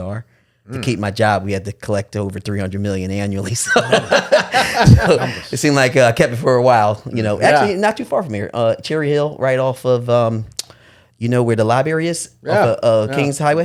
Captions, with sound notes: To keep my job, we had to collect over 300 million annually. (laughing) It seemed like I kept it for a while. Not too far from here. Cherry Hill right off of, you know, where the library is, Kings Highway.